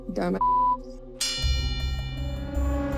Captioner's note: bell dings